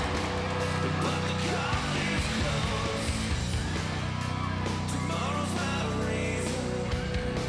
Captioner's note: crowd cheering